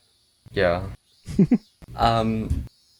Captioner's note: chuckles